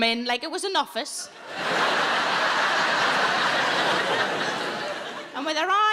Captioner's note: audience laughing